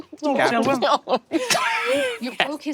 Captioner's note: laughs